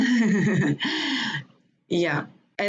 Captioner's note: laughs